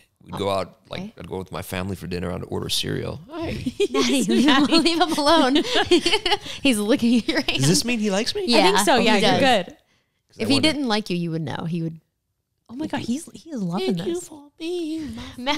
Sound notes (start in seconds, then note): 3.4 both laughing